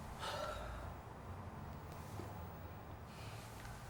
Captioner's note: sighing